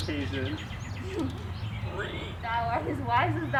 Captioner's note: donkey bray